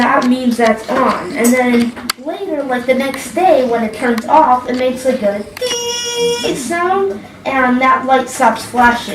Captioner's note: BEEEEEEEEEEEEEEEEEEEEEEEEEEEEEEEEEEEEEEEEEEEEEEEs